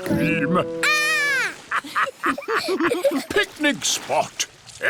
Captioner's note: laughter